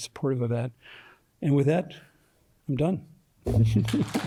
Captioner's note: applause